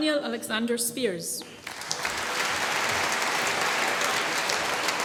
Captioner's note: applause